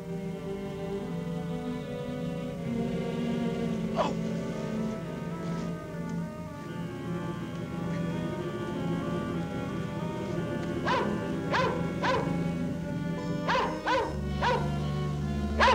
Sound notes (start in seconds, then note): 3.7 groaning; 11.0 dog barking